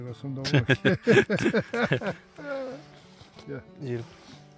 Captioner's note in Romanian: Râsete